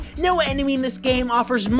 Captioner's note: none